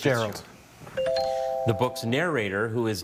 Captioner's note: bell chimes